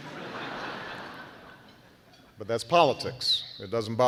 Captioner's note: laughter